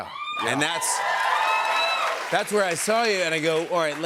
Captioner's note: cheers and applause